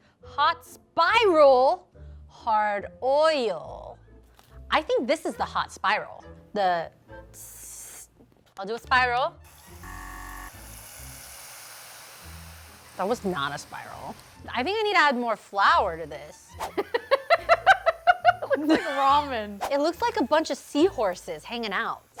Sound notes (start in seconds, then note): 7.2 hissing sound; 9.7 buzzer ringing; 9.8 sizzling sound; 16.7 laughing